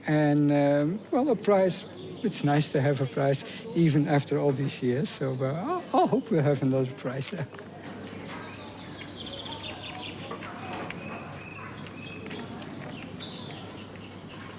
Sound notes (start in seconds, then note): 5.6 chuckles; 8.1 birds singing